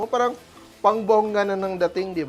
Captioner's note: sizzles